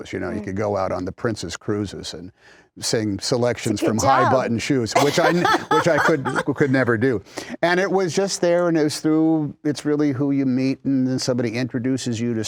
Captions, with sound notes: "You know, you could go out on the Princess Cruises "and sing selections from high button shoes." - It's a good job. (laughter) - Which I could never do. And it was just there and it was through. It's really who you meet and somebody introduces you